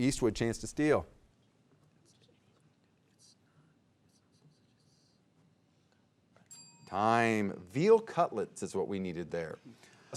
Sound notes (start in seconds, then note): 1.6 players whispering; 6.5 bell dinging